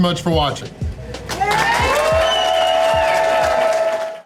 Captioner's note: crowd clapping and cheering